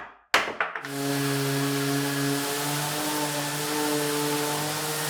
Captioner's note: wood clatters; machine buzzing